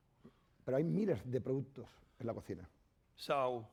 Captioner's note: speaking spanish